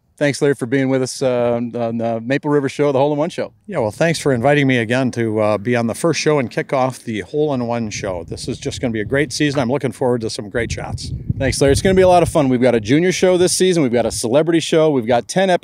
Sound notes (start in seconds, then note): none